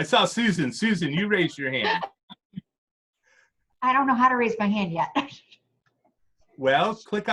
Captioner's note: chuckles